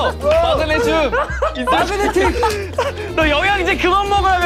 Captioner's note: can't hold in his laughter